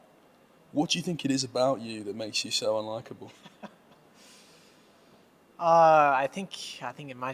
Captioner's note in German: lacht